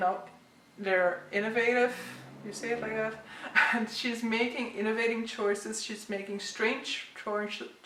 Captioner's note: pronunciation struggles